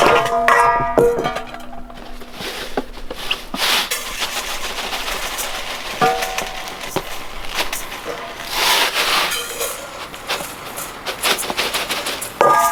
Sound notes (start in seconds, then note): 0.3 bowls clanging; 4.0 salt rustling